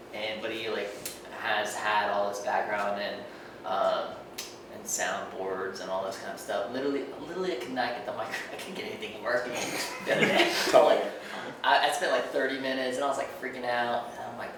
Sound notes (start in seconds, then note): 9.5 laughing